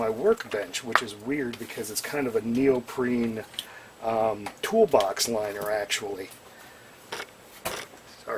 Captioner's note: audible popping